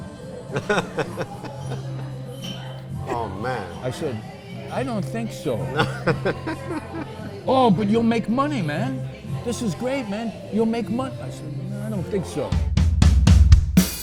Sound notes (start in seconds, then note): 0.5 laughing; 5.7 laughing